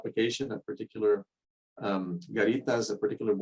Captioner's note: speaking in foreign language